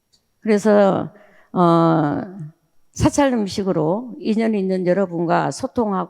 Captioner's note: speaking in foreign language